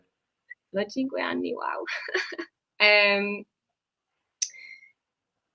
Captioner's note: laughs